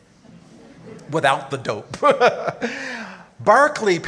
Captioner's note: laughing